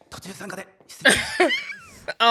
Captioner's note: laughing